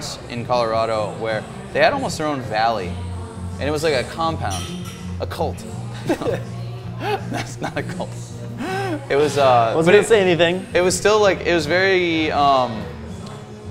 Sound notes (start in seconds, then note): 5.8 laughs